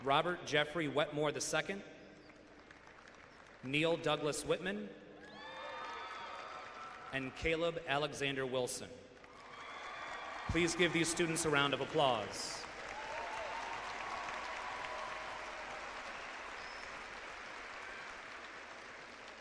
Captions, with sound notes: Robert Jeffrey Wetmore II. Neal Douglas Whitman. And Caleb Alexander Wilson. Please give these students a round of applause. (clapping and cheering)